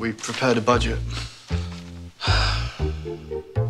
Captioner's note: sighs